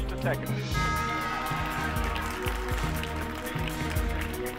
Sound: clapping

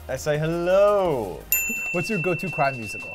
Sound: dinging

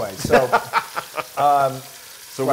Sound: laugh

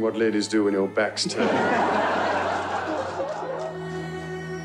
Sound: crowd laughing; somber violin music

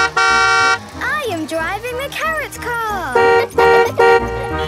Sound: honking; honking; laughing; horns honking

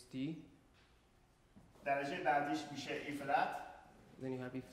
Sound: speaking in farsi

